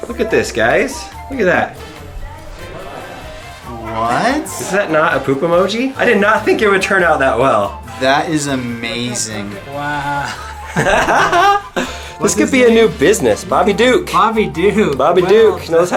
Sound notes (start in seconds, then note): 10.0 laughs